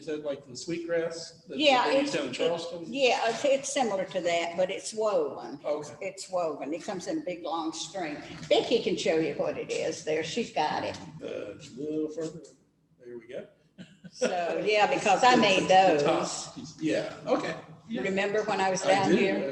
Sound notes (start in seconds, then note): 14.0 laughter